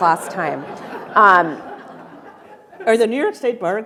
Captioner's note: attendees laughing